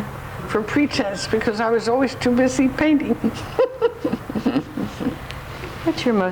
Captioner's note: laughs